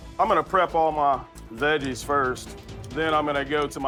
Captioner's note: none